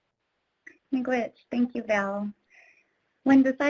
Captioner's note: speaks in foreign language